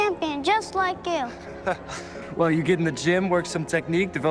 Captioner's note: chuckles